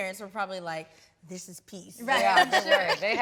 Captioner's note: laughs